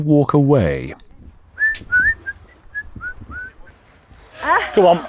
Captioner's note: vendor whistling